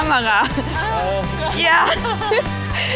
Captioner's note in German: lacht